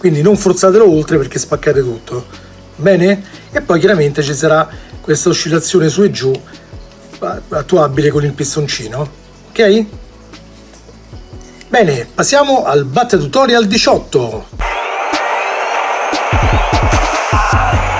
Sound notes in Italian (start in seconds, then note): 14.6 Applauso